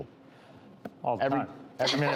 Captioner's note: laughs